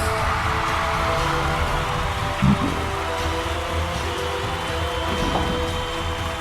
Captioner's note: dramatic music; people cheering